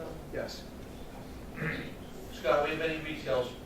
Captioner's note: clears throat